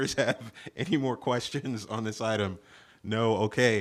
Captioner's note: laughter